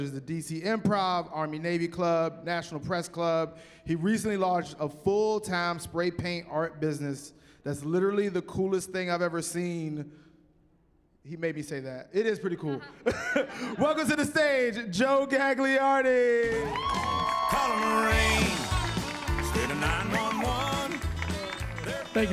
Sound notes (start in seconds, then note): 16.4 cheering